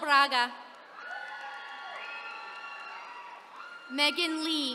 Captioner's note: attendees cheering